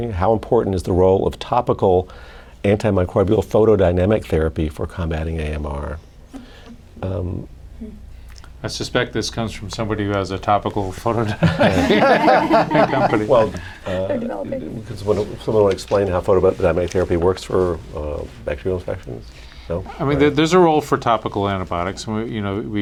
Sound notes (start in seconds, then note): 11.2 laughter